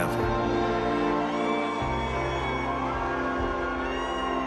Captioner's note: loud cheering